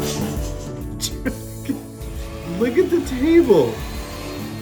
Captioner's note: laugh